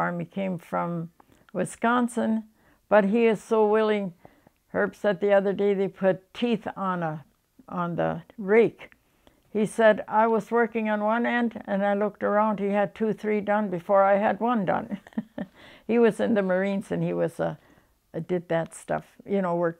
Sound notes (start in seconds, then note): 14.9 laughs